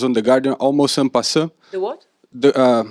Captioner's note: non-english